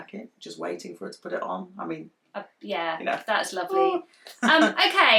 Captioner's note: makes pretend emotional noise